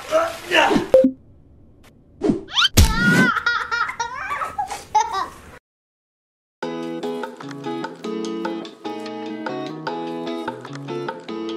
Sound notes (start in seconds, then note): 0.2 groans; 0.9 button beeps; 2.3 thumps against floor; 6.6 playful music